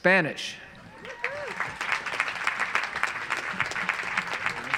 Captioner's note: audience applauds